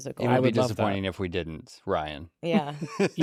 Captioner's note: laughs